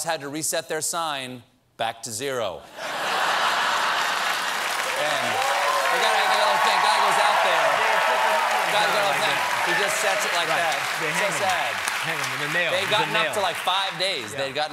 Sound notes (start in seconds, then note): 2.7 laughter; 3.7 applause